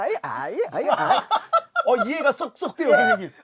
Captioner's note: hahaha